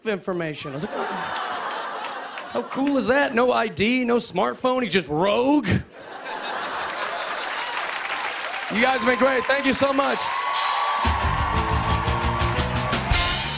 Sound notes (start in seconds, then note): 0.6 laughter; 5.9 laughter and applause; 10.2 cheers and applause